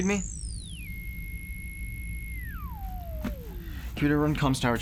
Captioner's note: computer whirs